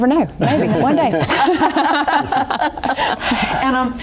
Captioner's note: laughter